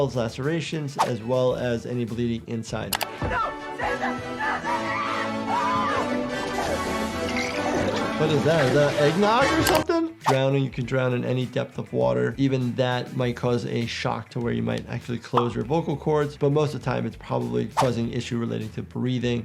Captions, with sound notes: lacerations, as well as any bleeding inside. - No! Listen. No, no! (screams) (water gurgling) - What is that? Is that eggnog or something? Drowning, you can drown in any depth of water. Even that might cause a shock to where you might actually close your vocal cords. But most of the time, it's probably causing issue relating to breathing.